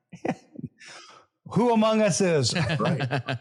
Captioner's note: laughs; laughs